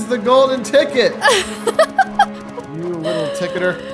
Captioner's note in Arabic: تضحك